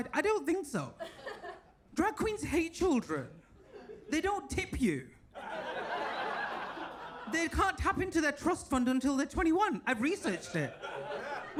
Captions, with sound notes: I don't think so. Drag queens hate children. They don't tip you. (audience laughs) They can't tap into their trust fund until they're 21. I've researched it.